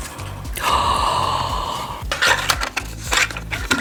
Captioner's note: gasps